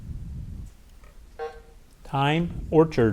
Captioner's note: bell buzzes